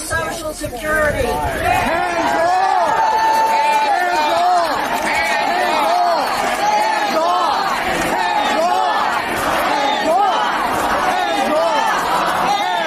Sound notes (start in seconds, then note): 7.0 cheering